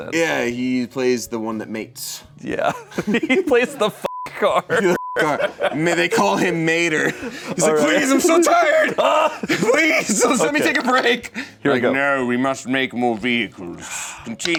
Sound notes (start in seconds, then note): 4.9 beep; 5.3 laughs